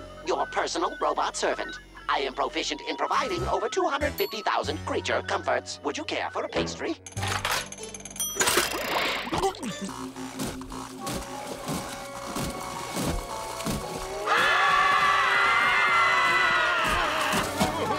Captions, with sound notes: your personal robot servant. I am proficient in providing over 250,000 creature comforts. Would you care for a pastry? [stomping] [screaming]